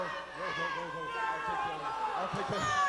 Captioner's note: crowd chatter